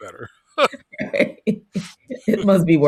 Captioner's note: both laughing